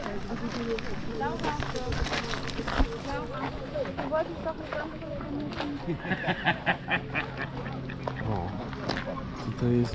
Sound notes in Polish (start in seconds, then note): 5.8 śmiech